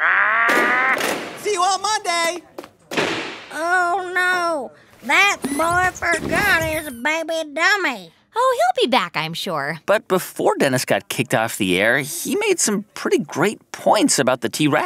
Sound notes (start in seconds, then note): 0.4 megaphone; 0.5 soundbite of crash; 2.9 soundbite of door slam; 8.0 soundbite of squeak